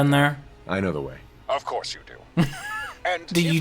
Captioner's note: laughing